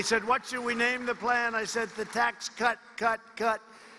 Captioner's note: applause